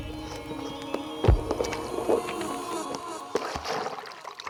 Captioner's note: water splashing